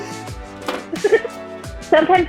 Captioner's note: laughing